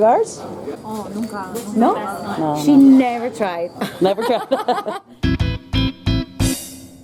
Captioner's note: laugh